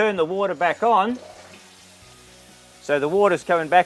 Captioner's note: water rushing